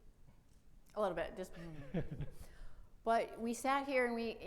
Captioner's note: laughs